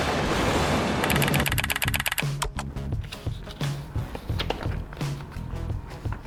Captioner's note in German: tippen einer Schreibmaschine